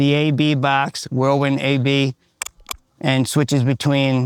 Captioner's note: switch clicks